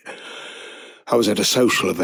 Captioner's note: inhale